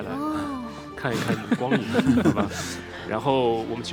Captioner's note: laughs